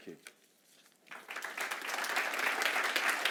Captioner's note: applause